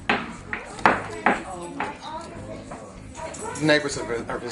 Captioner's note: overlapping chatter